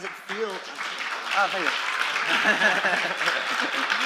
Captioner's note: applause